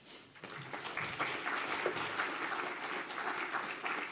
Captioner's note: audience clapping